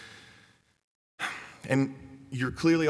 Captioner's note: sighs